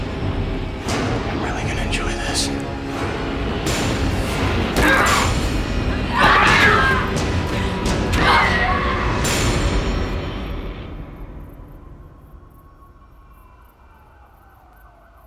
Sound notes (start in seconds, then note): 4.5 struggling; 5.9 screaming